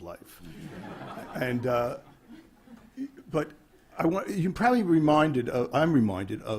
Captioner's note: laughter